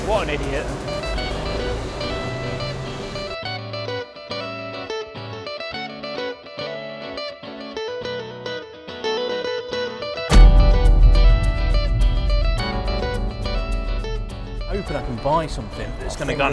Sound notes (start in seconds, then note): 1.1 bright, cheerful music; 10.3 boom